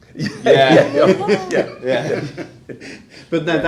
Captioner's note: laughing